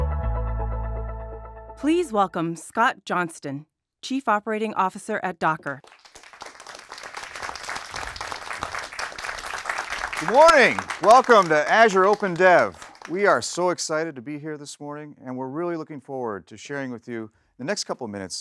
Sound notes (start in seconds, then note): 5.7 applause